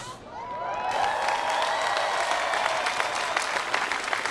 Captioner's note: cheering and applause